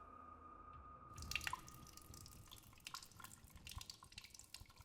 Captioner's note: urine pattering